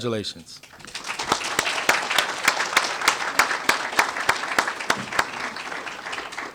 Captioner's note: applause